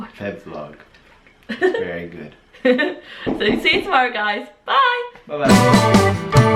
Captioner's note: laughing